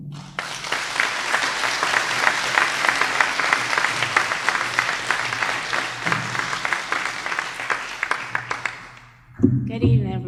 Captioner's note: applause